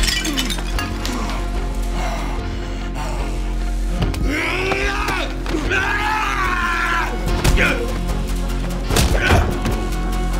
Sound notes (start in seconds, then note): 0.0 pot shattering; 4.2 Macon yelling; 7.5 fist thumping